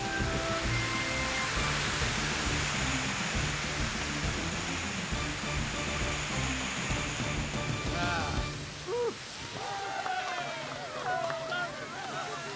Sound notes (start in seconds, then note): 9.6 crowd Cheering